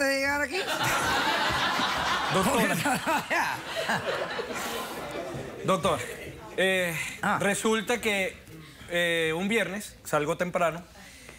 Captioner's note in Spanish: carcajadas del público